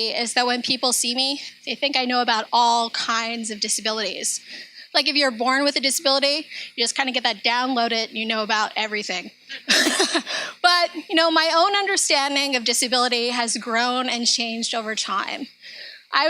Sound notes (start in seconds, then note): 9.6 laughs